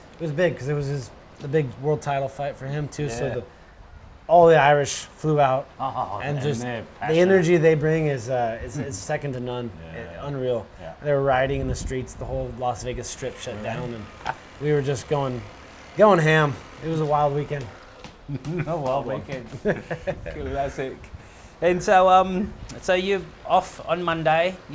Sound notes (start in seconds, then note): 18.1 laughs